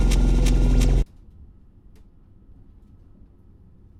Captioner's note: music stops